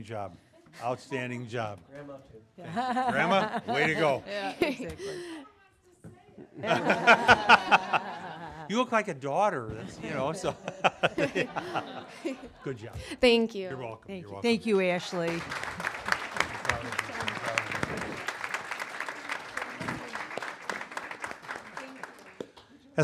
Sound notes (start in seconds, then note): 3.0 laughter; 15.0 applause